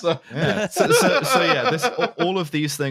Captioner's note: laughter